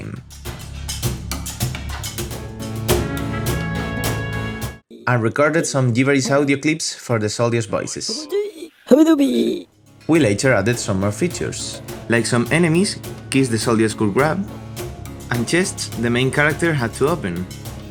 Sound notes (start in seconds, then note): 2.6 uplifting epic music; 8.8 high pitched voice